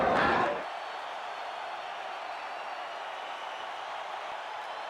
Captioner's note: spectators cheering